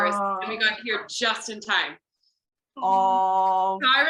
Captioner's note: collective awww